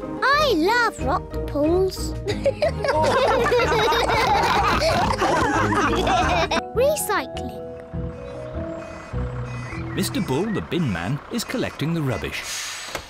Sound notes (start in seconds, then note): 2.2 all giggle